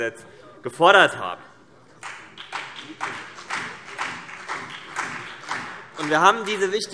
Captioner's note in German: Beifall BÜNDNIS 90/DIE GRÜNEN und vereinzelt CDU